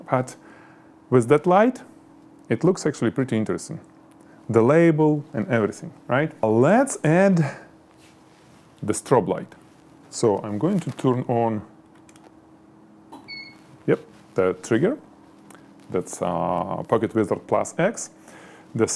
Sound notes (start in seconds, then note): 13.2 camera peeps